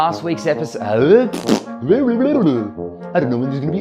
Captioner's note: blubbering